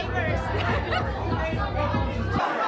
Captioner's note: laughing